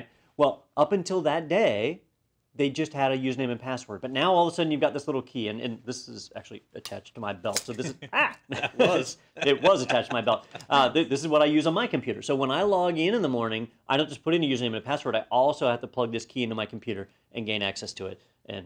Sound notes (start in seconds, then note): 7.7 laugh